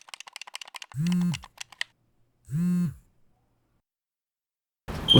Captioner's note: phone vibrates